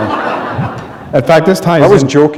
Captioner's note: laughter